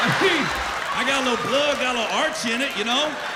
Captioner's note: laughter